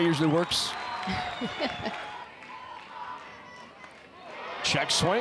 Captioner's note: chuckles